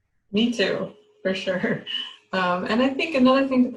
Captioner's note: laughing